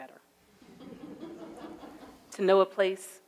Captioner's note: audience laughs